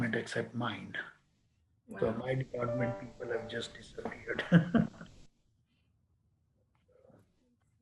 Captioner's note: laughs